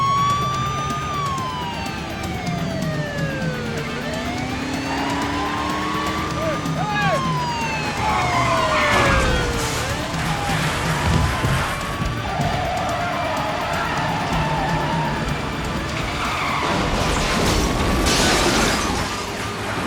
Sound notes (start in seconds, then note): 8.3 siren wails; 8.8 metal clanks